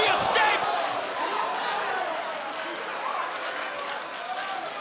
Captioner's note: audience cheering